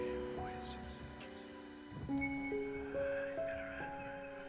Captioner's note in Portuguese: sussurros